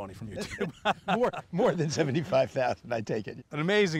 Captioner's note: laughter